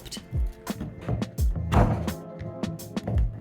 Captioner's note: chopping